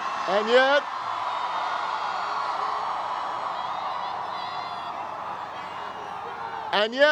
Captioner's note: crowd cheers